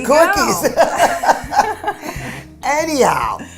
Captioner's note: laughing